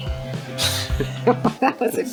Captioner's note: laughter